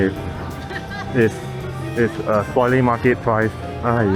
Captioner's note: laughing